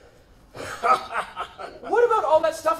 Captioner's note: Doc chuckles